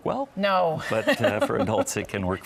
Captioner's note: laughs